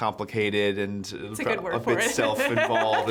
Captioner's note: laughs